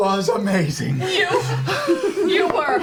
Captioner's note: all laugh